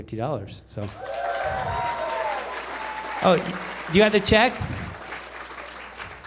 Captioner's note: applause